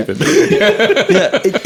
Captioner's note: laughing